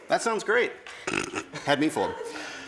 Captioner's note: chuckles